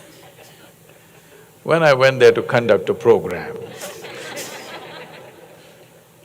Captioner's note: laughter; laughter